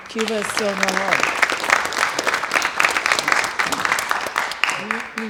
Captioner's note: applause